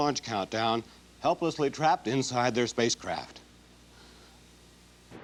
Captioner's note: voice breaking